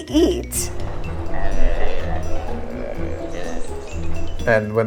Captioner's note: monkeys grunting